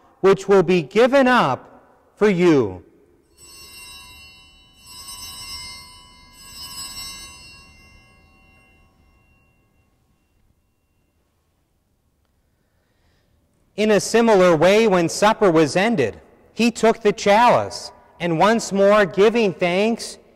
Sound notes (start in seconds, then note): 3.2 bells ringing